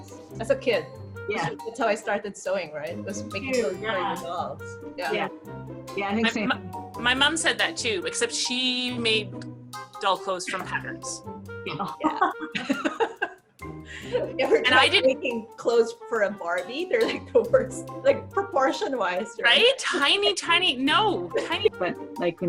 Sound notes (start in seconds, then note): 11.7 laughing